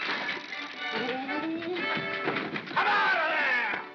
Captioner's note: wood cracking & splintering; whimsical music; Ollie makes flustered noise